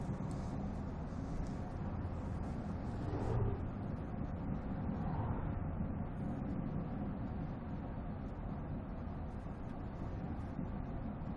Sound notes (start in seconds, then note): none